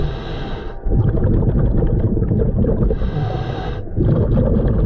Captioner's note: underwater sounds